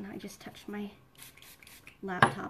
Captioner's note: spritzing